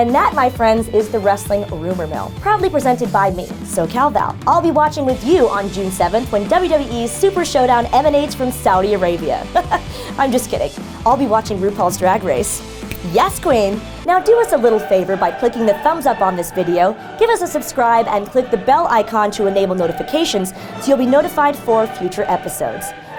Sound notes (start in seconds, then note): 9.3 laughs; 12.8 snap